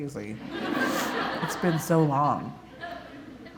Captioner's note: laughter